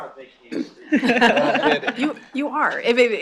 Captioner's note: laughter